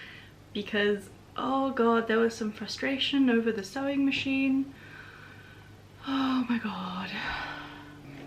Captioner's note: deep sigh